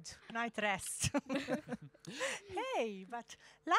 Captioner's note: laughing